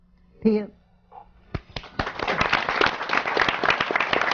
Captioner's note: applause